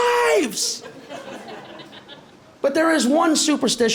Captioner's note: light laughter